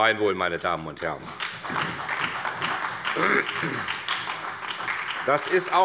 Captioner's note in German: Beifall bei der SPD